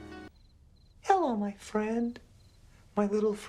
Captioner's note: in high voice